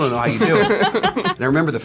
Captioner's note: laughter